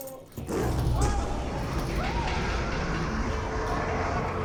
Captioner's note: roars